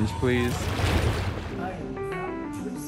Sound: water sploshing

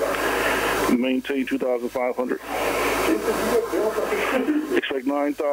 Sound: people chattering

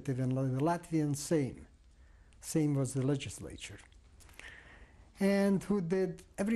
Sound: non-english

